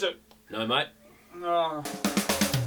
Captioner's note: groans